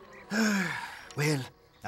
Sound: sighs

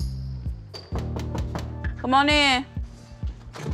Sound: knocking

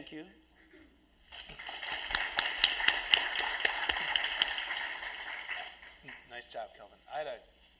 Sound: applause

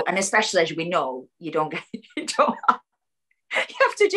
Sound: laughs

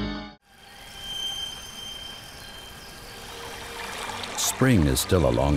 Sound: birds chirping

